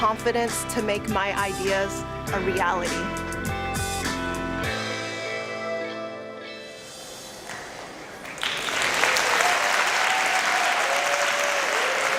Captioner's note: applause and cheering